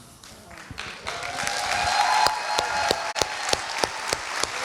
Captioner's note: applauding